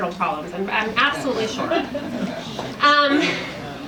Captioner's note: audience laughs